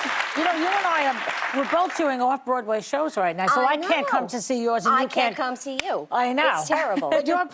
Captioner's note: applause